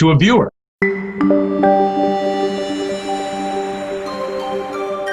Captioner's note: logo chiming